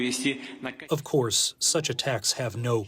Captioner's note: through translator